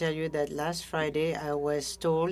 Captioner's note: speaking French